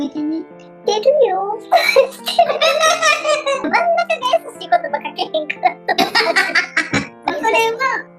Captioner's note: laughs